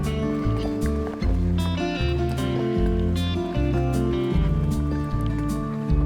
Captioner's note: horse hooves clopping